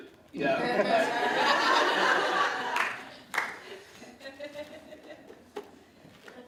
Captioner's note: laughing